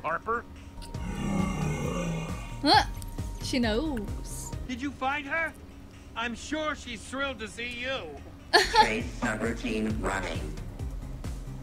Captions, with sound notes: (growl) - Ah, she knows. (laughs)